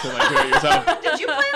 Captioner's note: laughter